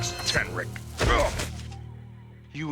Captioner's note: grunting